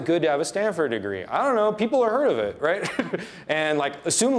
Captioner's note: laughs